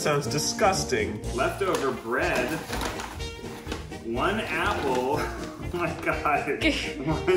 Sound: laughs

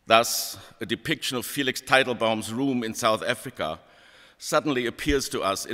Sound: none

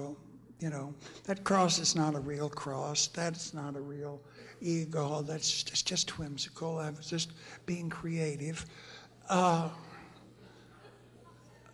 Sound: laughter

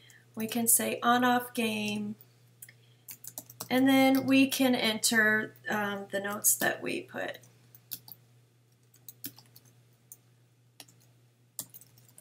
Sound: typing

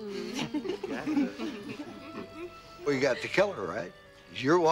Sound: <i> giggling</i>

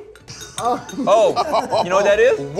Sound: laughs

